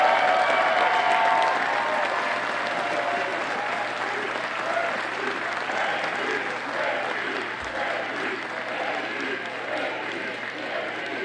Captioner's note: Audience chants "JD"